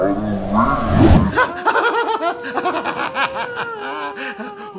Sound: laughs

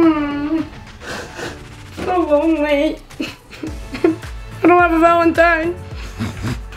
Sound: whimpers

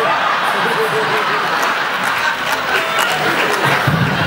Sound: laughs

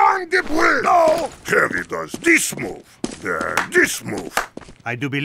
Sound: clap clap

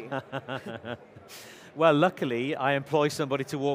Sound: chuckles

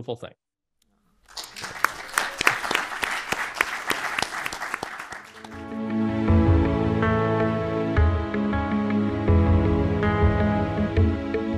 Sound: applause

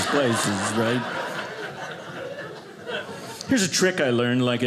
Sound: audience laughing

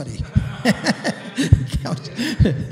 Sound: laughter

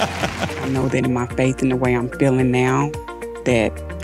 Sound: laughs

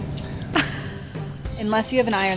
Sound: laughing

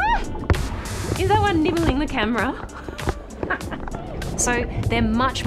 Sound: laughs

